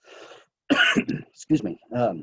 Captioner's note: coughing